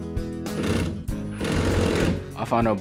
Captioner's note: drilling noise